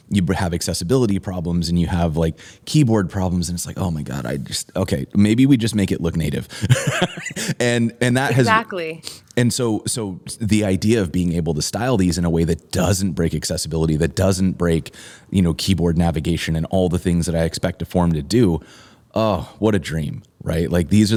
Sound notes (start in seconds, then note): 6.6 laughter